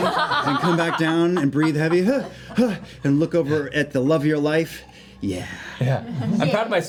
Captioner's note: panting